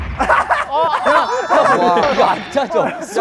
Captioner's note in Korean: 꺄르르